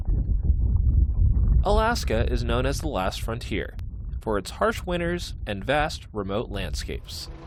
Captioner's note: voice-over